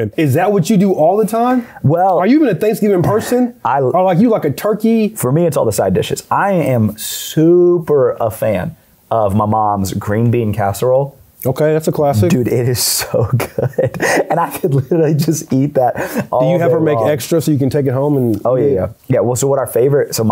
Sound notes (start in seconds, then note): 13.0 laughs